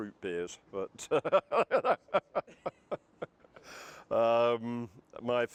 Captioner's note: laughter